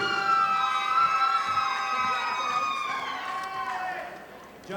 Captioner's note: audience applauding